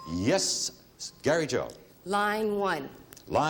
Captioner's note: ding